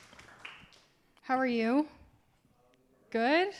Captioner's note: class applauding